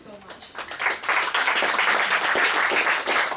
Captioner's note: applause